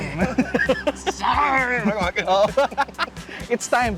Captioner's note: both laugh